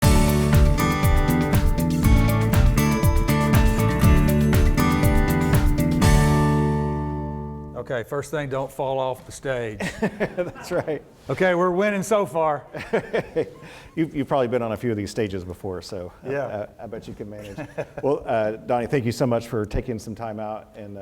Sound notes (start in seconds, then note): 0.0 bright music; 9.8 laughs; 12.7 laughs